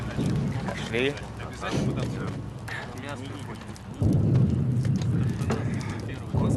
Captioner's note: far-off canon fire